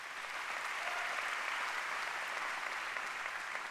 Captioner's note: applause